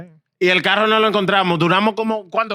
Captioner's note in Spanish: Hablando en idioma extranjero